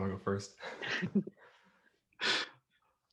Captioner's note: laughter